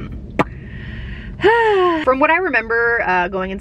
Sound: sighs

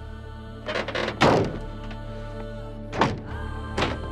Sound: door closes

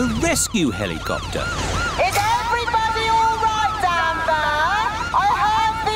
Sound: over megaphone

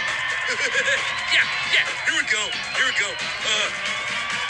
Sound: laughs

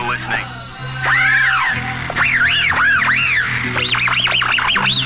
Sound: static noise

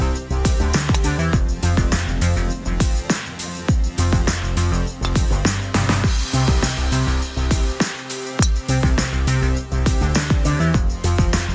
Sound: golf and nature sounds

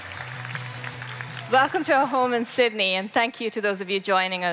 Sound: applause

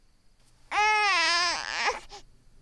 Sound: baby cries

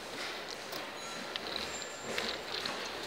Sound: a sip of coffee

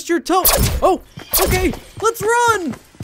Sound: gun buzzing

